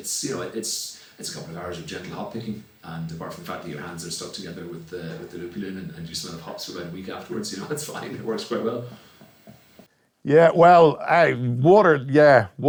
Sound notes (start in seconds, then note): 8.0 laughs